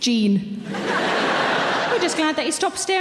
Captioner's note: audience laughs